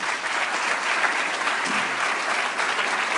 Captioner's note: applause